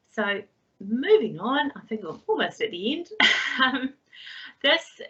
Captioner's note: laughs